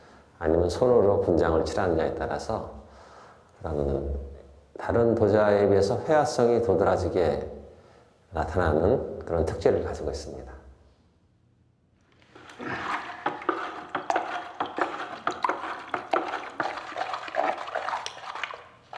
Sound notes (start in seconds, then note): 12.2 mixture sloshing